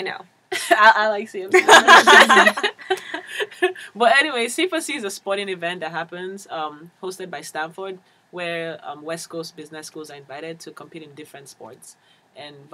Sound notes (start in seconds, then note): 1.5 laugh